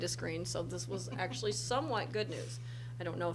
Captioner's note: laughs